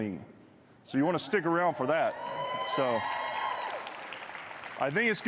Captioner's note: applause